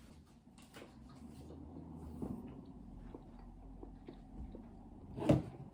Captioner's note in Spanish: chews mango loudly